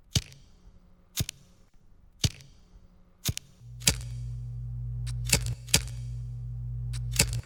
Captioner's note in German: Feuerzeuggeräusch